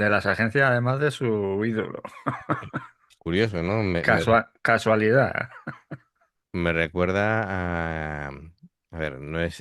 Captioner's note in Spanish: risas